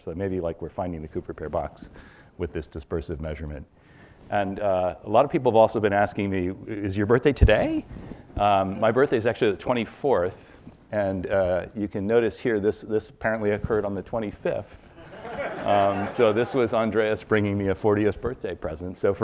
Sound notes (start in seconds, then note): 15.0 audience laughs